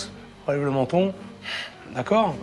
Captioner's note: inhales